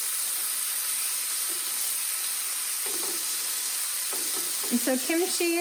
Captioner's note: sizzling